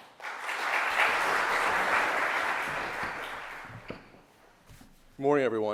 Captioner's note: audience applauding